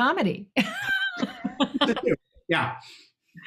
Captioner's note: everyone laughs